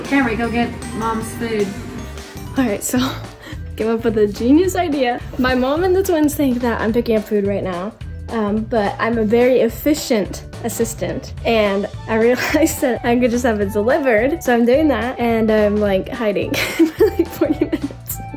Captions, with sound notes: - Kamri, go get mom's food. - All right, so Came up with the genius idea My mom and the twins think that I'm picking up food right now But I'm a very efficient assistant, And I realized I'm just gonna have it delivered, So I'm doing that, and I'm like hiding (laughs) pretty much